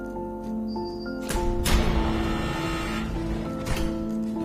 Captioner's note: door buzzes and unlocks